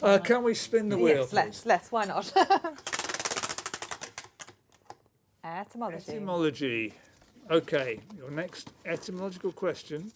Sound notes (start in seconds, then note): 2.3 laughs; 2.6 ratcheting